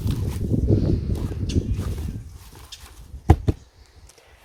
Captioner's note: birds chirping